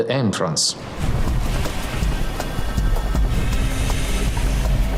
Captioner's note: fire roaring; suspenseful music